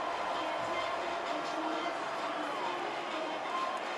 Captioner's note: crowd cheering